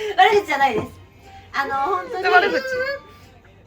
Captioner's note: laughs